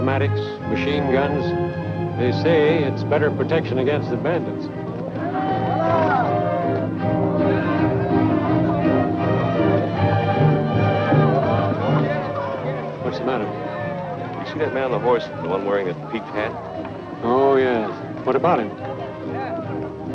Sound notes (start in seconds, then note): 6.2 cheering; 6.2 exciting music